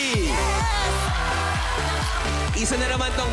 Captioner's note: crowd cheering